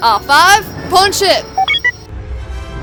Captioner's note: approval beeps